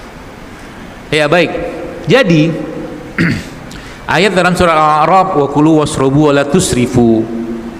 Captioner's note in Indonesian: berdehem